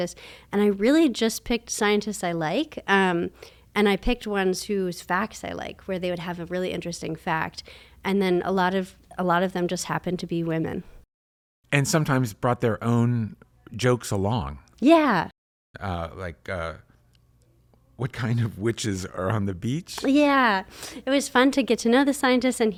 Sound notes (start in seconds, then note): none